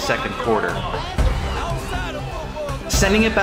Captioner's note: A fan yells